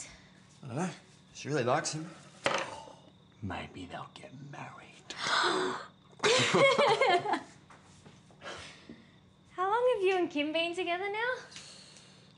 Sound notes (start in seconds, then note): 5.2 gasps; 6.2 laughter